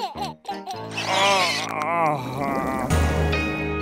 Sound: laughing; groaning

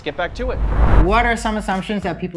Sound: air whooshing

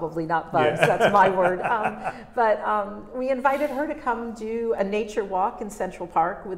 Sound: laughs

